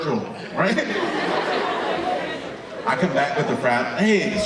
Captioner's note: audience laughing